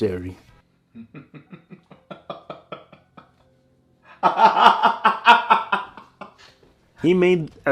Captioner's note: Caleb City Mocking Laughter